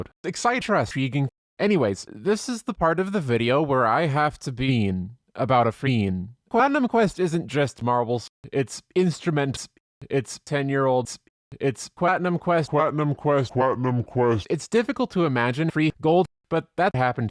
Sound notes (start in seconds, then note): 12.5 pitch descending